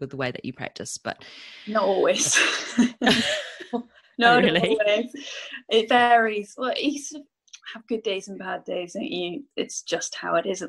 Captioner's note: laughs